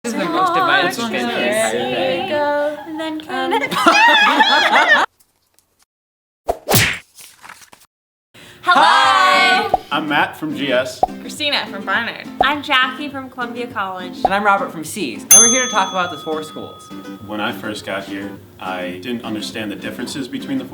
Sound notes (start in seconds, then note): 3.8 screaming